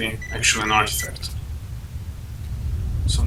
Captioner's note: detector stops plinging